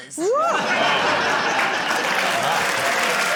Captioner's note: laughter, applause